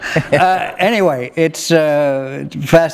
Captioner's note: laughter